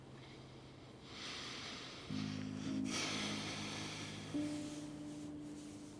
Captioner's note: Christopher breathes deeply